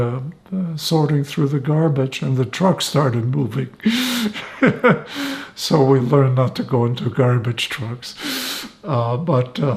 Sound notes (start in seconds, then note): 3.8 laughing